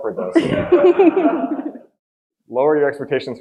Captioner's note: audience laughing